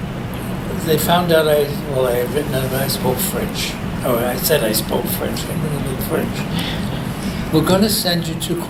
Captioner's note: both laugh